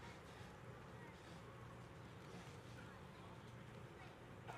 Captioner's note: attendees chatting softly